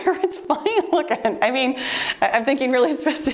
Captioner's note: chuckling; timer beeps